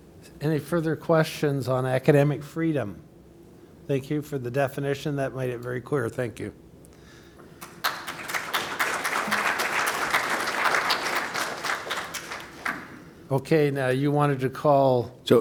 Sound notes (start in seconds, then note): 7.5 applause